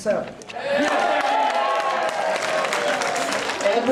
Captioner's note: cheers and applause